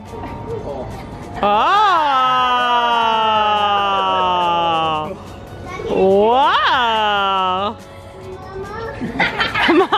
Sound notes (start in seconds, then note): 1.4 family oohing; 9.0 all laughing